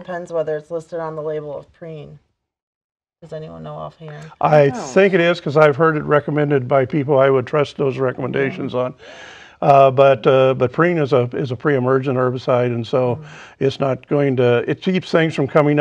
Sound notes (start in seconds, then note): 8.0 laughing